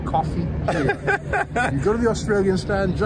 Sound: laughs

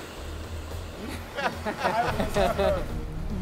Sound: laughter

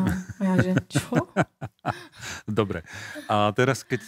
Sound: laughter

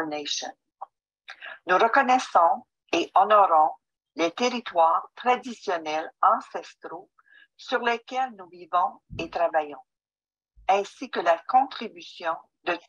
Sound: French

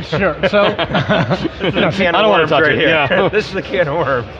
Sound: laughing

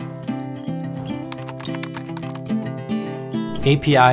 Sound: gentle music; graphic clicking

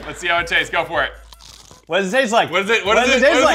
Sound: crunch

